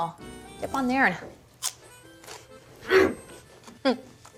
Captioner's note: crunch